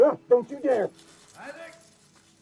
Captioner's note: mouse squeaks; exclaims